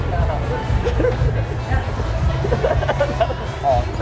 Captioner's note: laughing